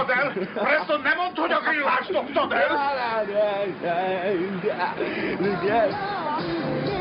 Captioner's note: radio